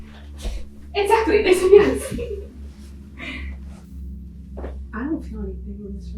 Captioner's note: laughing